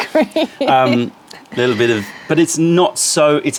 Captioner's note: laughter